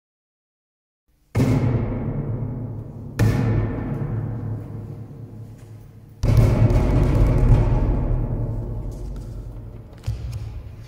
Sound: banging and slamming

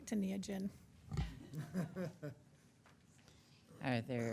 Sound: audience laughing

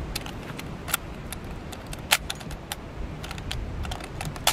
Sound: loads gun

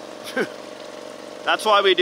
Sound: chuckles

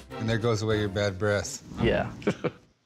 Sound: chuckles

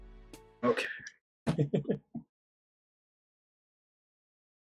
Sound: chuckles

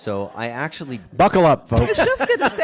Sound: laughs

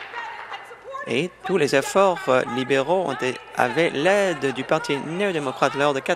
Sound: applause

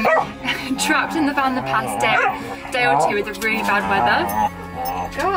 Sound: playing loudly in the background

